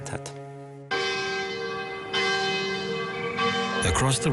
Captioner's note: bell ringing